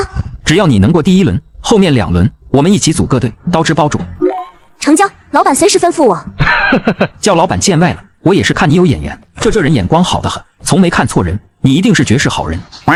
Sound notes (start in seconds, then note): 6.4 chuckles